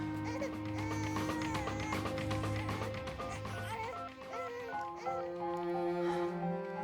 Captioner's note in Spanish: Llanto de niño